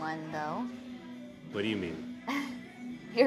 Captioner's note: Keely chuckles